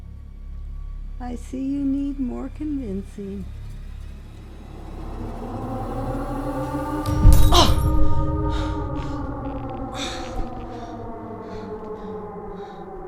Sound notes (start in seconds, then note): 7.3 glass smashing; 9.6 tense music; 12.9 person breathing